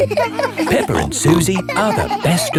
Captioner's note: all laughing